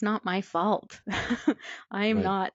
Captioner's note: laughs